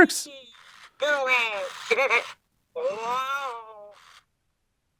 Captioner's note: Coco babbling